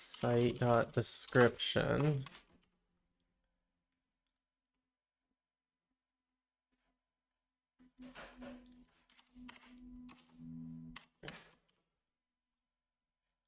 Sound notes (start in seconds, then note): 2.5 silence